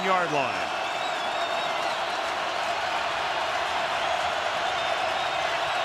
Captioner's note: crowd cheering